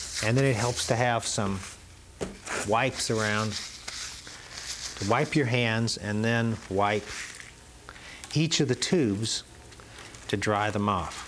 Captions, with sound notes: And then it helps to have some wipes around (wipes crinkling) to wipe your hands and then wipe each of the tubes to dry them off.